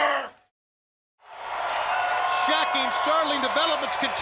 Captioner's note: crowd cheering